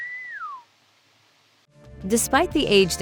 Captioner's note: whistle